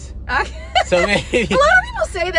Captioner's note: laughing